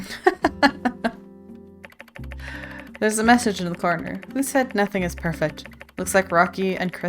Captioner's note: laughs